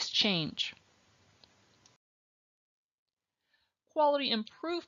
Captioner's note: silence